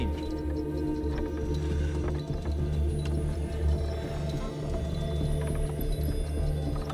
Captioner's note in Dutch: dramatische muziek; hout kraakt